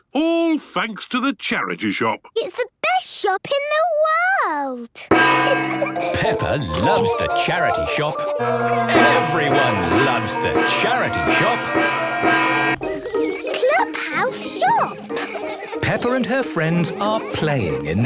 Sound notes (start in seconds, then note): 4.9 kids giggling; 11.4 dissonant music